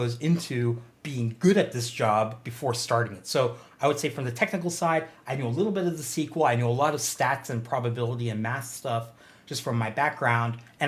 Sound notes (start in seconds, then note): none